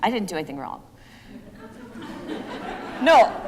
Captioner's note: laughter